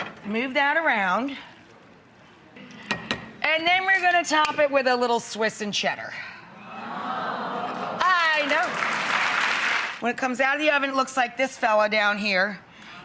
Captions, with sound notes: Move that around. And then, we're gonna top it with a little Swiss and cheddar. (audience awes) I know. (audience applauds) When it comes out of the oven, it looks like this fella down here,